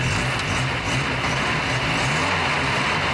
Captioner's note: revs engine